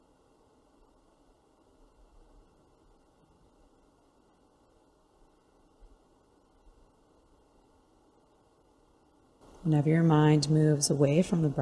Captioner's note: silence